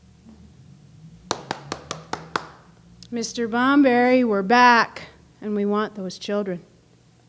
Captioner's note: knocking with fist